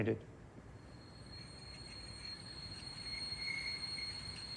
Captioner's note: high‐pitched screeching